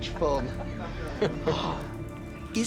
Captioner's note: chuckling